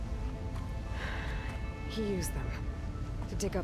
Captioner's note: sigh